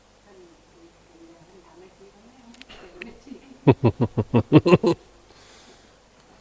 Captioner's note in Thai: เสียงหัวเราะ